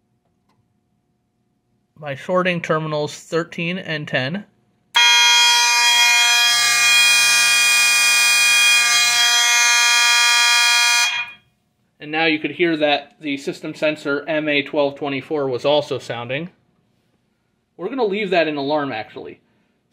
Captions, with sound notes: By shorting terminals 13 and 10. [Constant horn and high-pitched electronic sounder] And now, you could hear that the System Sensor MA12/24 was also sounding. We're gonna leave that in alarm, actually.